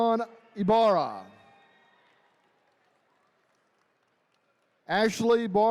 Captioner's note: attendees cheering